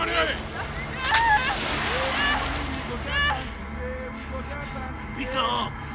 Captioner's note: water spraying; wailing; ominous music; speaking in foreign language